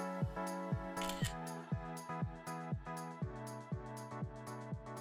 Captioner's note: camera shuttering